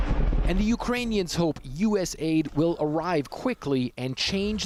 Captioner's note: voice-over